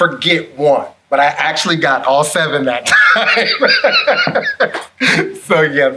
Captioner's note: laughs